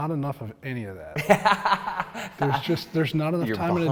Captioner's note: laughs